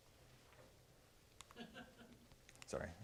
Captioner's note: laughter